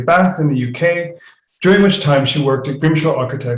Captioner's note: non-english speech; non-english speech